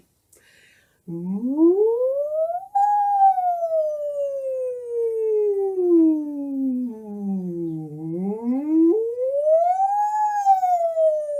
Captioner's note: sirens